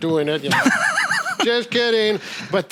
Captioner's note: laughing